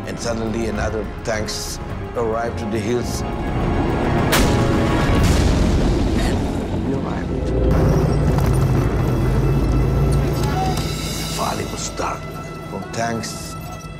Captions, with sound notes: And suddenly another tank's arrived to the hills. (explosions booming) And we arrived. (dramatic music) The valley was dark with tanks.